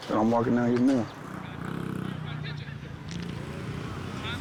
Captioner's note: motorcycle revs